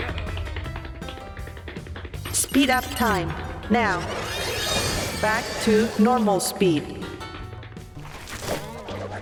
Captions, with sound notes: (robot voice) SPEED UP TIME. NOW. BACK TO NORMAL SPEED.